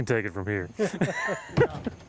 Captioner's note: laughter